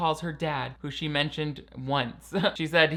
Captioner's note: laughs